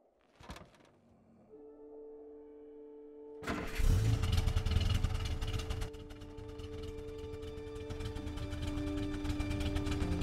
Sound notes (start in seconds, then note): 0.7 metal creaks; 3.4 engine grumbles; 5.8 soft instrumental music plays